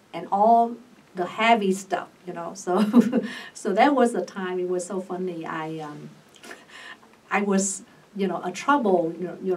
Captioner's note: laughs